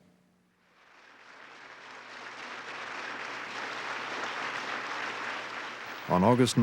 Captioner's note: applause